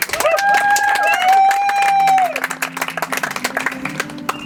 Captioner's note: audience applauds